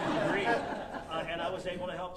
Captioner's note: audience laughing